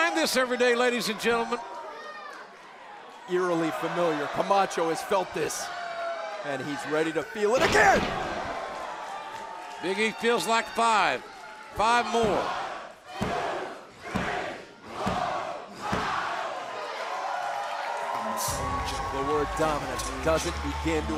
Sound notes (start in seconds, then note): 15.9 crowd cheering